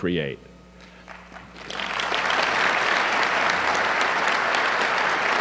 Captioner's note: audience clapping